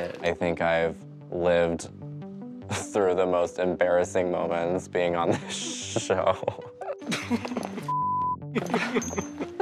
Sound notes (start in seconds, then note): 5.2 chuckles; 7.0 Violet laughing